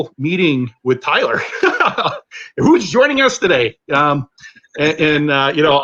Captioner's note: laughter